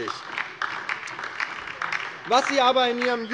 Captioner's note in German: Beifall DIE LINKE